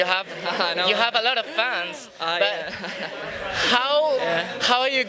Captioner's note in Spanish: risas; risas